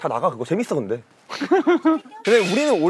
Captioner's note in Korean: ㅎㅎㅎㅎ